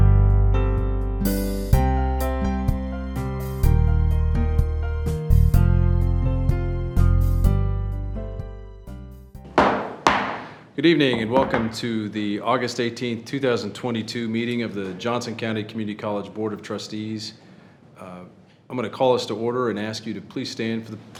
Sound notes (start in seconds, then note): 9.4 gavel pounds